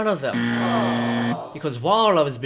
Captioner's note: buzzer